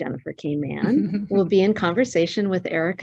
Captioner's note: chuckling